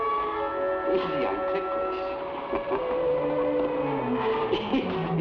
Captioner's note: laughs